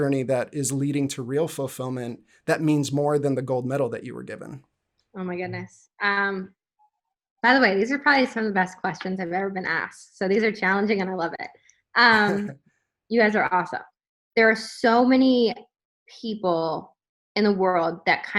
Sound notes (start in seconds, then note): 12.1 laughs